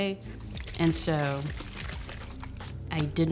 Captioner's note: bottle shaking